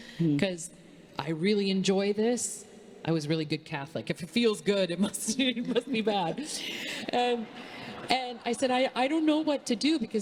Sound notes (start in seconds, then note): 5.3 congregation laughing